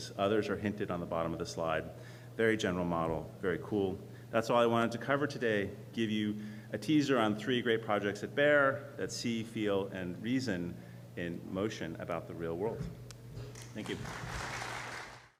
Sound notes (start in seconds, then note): 13.6 applause